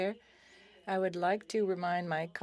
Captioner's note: speaking FRENCH